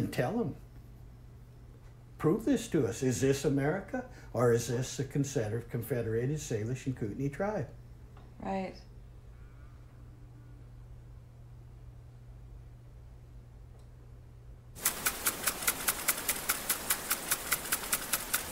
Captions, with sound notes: and tell them. 'Prove this to us, is this America?' 'or is this the Confederated Salish and Kootenai Tribe?' (WATER SPRINKLER)